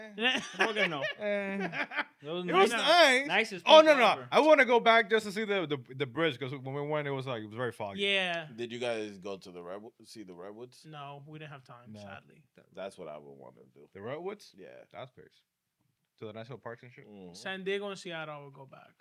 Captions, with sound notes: Yeah, San Bernardino. (Laughing) It was nice. It was nice. Oh, no, no. I wanna go back just to see the bridge because when it was like, it was very foggy. Yeah. Did you guys go to the Redwoods? See the Redwoods? No, we didn't have time, sadly. That's what I would want to do. The Redwoods? Yeah. To the National Park and shit? San Diego and Seattle, I would go back.